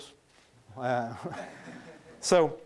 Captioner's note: laughing